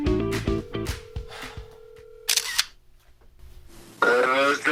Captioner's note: phone ringing